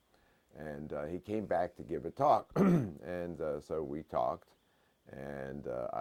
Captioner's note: cough